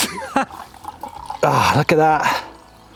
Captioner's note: liquid pouring